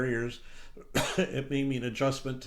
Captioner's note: coughs